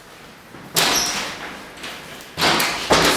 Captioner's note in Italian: slam